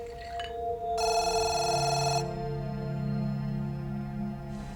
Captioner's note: phone ringing